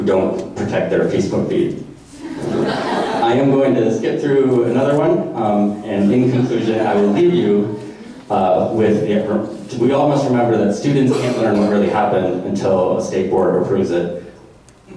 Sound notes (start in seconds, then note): 2.2 audience laughter